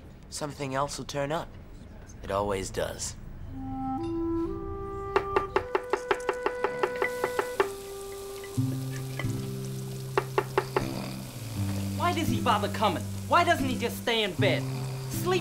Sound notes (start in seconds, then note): 3.4 sentimental music; 5.2 chopping; 6.5 snoring